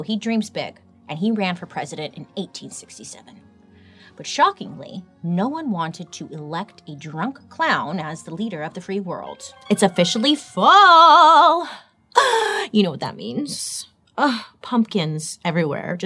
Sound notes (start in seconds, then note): 12.0 gasps